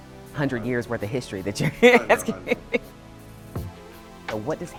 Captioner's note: laughs